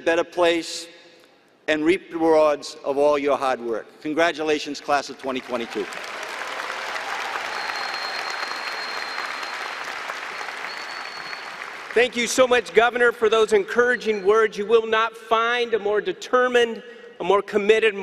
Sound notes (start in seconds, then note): 5.2 applause and cheering